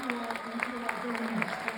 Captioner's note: cheers